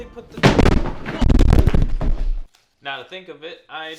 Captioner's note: crashing